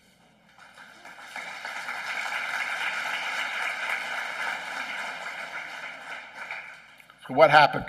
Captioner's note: applause